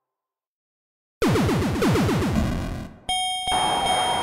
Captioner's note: game warbles; bell dings